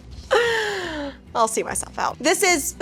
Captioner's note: inhales deeply